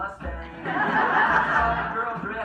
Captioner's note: crowd laughs